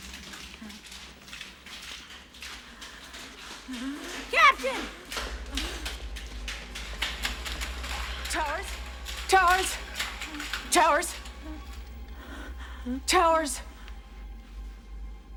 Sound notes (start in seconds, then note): 0.3 Towers Grunting; 3.3 Towers Gasping; 10.9 gasping